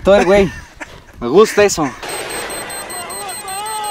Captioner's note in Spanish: tic tic